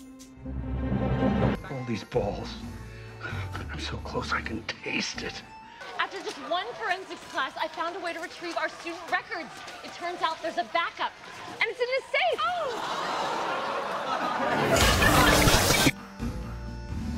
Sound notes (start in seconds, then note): 12.0 laugh track